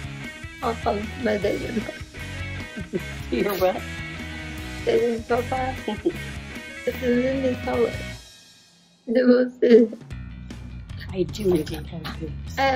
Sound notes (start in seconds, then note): 4.2 laughing